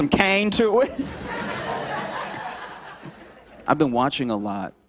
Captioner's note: laughter